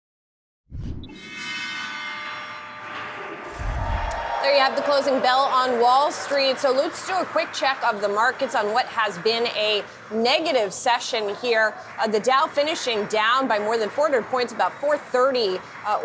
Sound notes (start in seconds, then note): 3.6 bell ringing